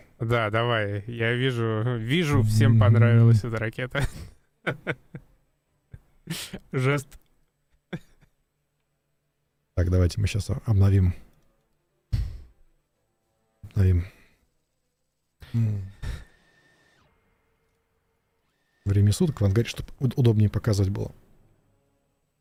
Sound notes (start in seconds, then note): 3.9 laughter; 7.8 laughs